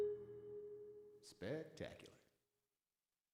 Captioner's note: Tom Hanks' voice